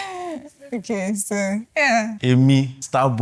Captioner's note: laughs